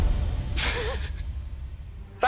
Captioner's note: chuckling